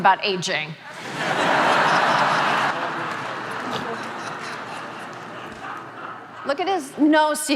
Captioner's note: audience laughing